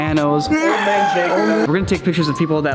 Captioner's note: death Squeal